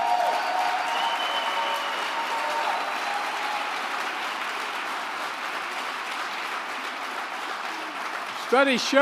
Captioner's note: applause